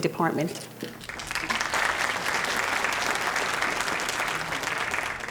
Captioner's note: audience applauding